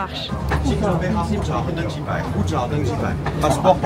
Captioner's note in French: parle chinois